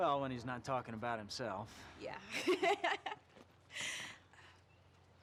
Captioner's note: laughs